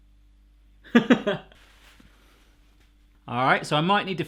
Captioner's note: laughs